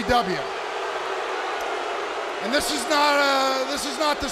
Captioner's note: crowd cheering